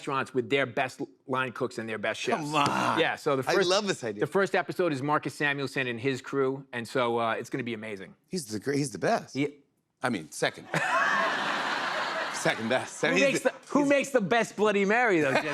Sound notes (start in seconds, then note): 10.6 laughter